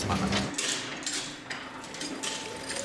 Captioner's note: metallic clacking